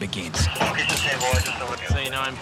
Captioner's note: male voice over walkie talkie